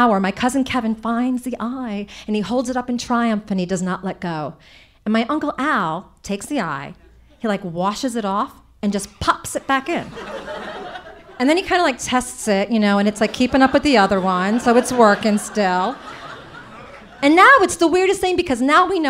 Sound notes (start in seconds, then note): 9.8 audience laughing